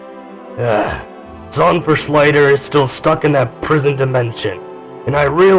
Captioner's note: sighs